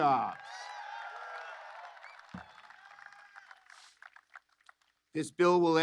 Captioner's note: applause